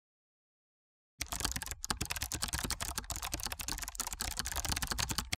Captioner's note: keyboard clacking